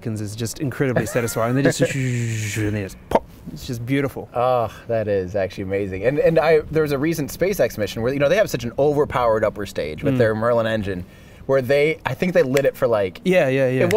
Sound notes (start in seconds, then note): 1.7 buzzes; 13.0 snaps